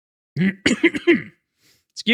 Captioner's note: clears throat